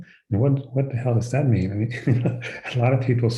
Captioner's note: chuckles